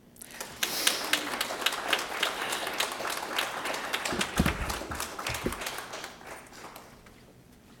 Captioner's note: applause